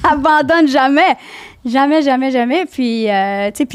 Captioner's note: in french